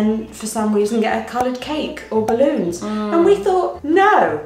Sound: bubbles popping

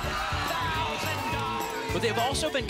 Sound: applause and cheering

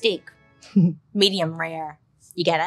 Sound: chuckles

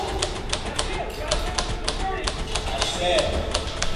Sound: orchestral music; speaking faintly

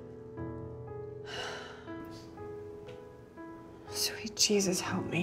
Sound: Alex sighs

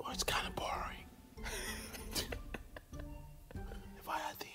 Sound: men laugh

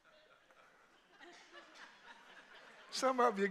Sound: congregation laughing

